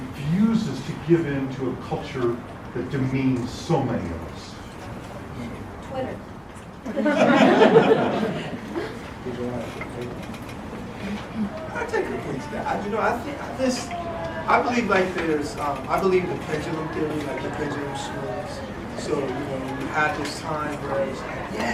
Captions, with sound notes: many of us? >> Twitter. >> [LAUGH] >> Yeah, go ahead. >> I'll take a shot at it, I believe in the principle thing, like the principle theory so we have this time where it's,